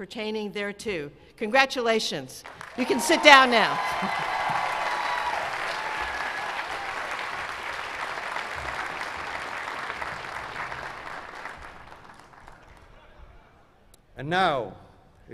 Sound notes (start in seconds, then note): 6.1 cheers and applause